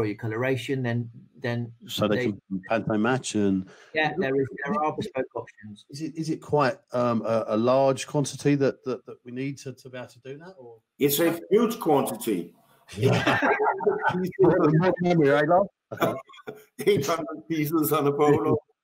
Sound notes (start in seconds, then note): 13.0 panel laughing; 14.7 speaking faintly